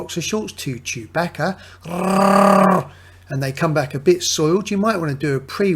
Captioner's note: growls